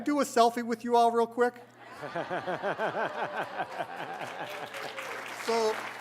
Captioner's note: laughter, applause